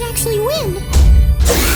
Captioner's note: punch; mimi shrieks